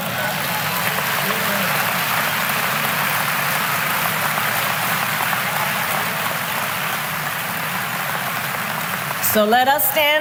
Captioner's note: applause